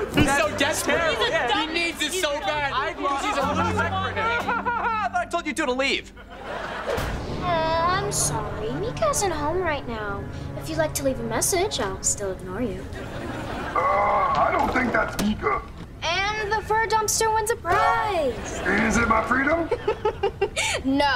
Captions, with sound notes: He's so desperate. He needs it so bad, cause he's a loser. [whining] I thought I told you two to leave. I'm sorry. Mika isn't home right now. If you'd like to leave a message, I'll still ignore you. Ah, I don't think that's Mika. And the fur dumpster wins a prize. Keys to my freedom? [laughing] No.